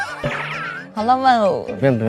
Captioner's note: laughing